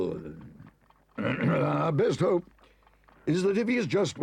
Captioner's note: clears throat